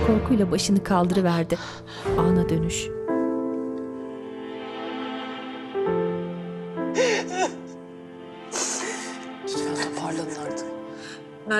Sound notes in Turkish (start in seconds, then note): 7.0 Ağlama sesi